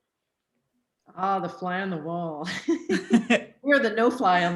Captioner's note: laughs